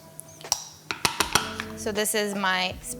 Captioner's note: cup clacking